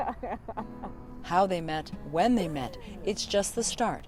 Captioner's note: laughter